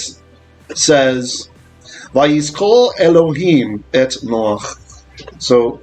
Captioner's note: Hebrew